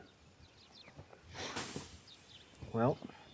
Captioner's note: fire hissing